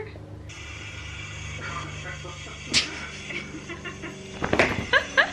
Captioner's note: helicopter sound